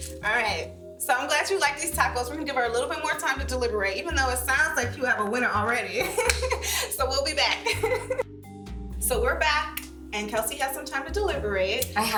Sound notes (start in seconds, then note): 7.6 laughs